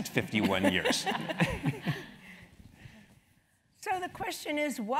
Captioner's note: laugh